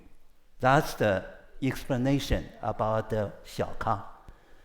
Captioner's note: speaks foreign language; speaks foreign language